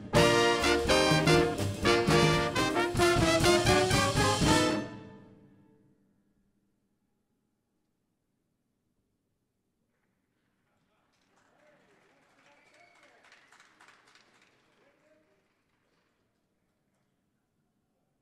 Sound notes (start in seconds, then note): 10.6 audience applauding